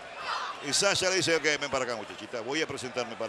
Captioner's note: none